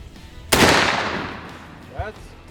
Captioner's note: gun firing